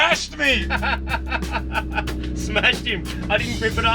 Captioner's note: laughing